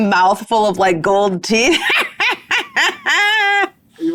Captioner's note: laughs